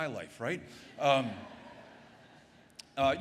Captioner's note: laughter